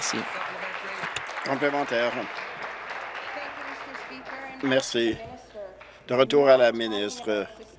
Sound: applause

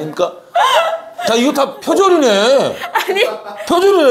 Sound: haha

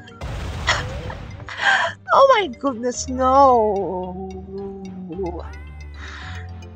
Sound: laughing

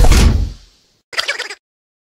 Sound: Henry laughing

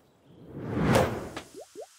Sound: whooshing; bubbles popping

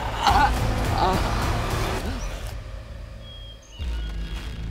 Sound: groaning

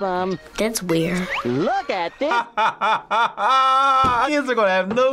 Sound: laughs

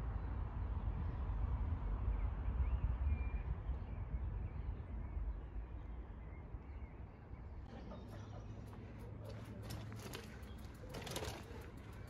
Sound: sound of birdsong and chatting in the background

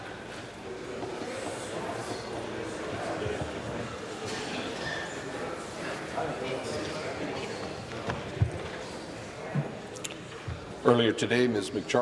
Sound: rhythmic tapping

